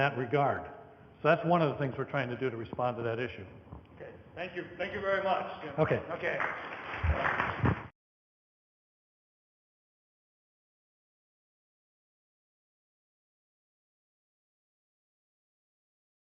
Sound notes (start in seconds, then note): 5.8 audience applause